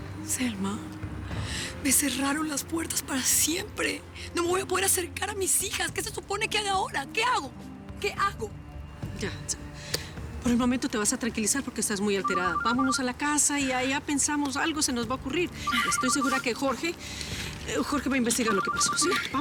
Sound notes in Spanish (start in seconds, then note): 12.2 suena el celular